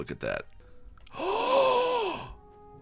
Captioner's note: gasps